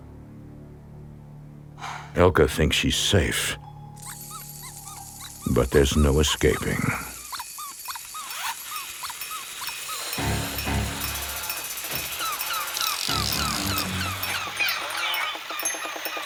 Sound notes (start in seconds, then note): 4.3 toy squeaks; 8.7 toy buzzing; 10.1 suspenseful music; 12.6 toys whirling and squeaking